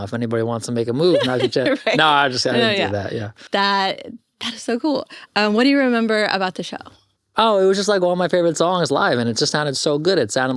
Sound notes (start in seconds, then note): 1.0 laughs